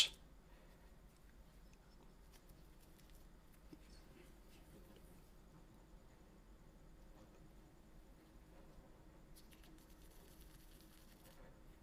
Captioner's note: silence